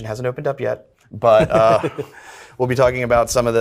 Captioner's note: laughs